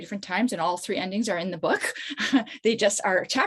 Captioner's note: chuckles